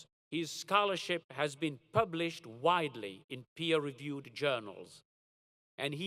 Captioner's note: none